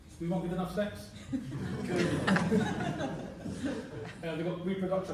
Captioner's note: laughter